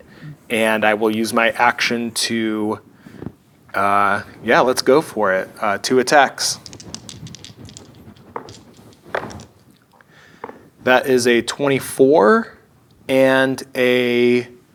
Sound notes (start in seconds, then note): 6.4 dice rattling; 8.0 dice rolling